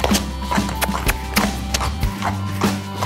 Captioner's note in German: Schnalzgeräusche; Kussgeräusche